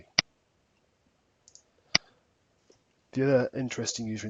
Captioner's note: mouse clicking